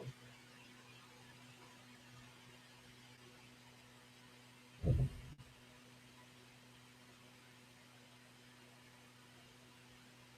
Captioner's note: me humming music